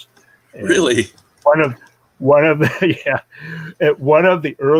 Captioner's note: chuckling